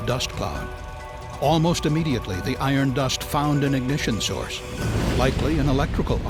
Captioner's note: sound of explosion